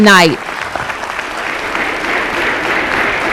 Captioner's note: applause